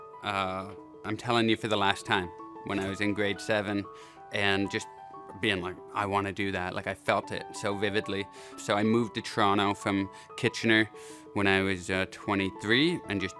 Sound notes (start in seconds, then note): none